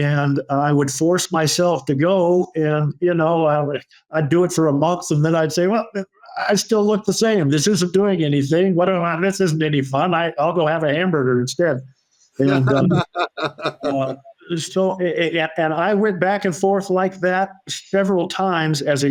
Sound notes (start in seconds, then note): 12.4 laughing